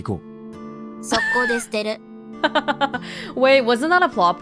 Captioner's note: chuckles